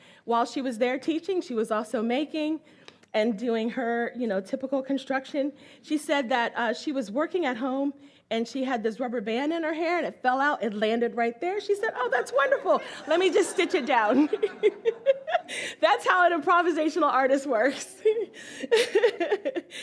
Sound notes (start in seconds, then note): 14.9 all laugh